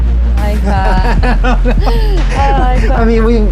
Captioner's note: electronic tones and percussion; laughing